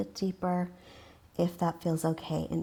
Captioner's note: exhales